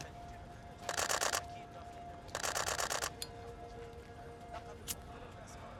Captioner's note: camera shutter snapping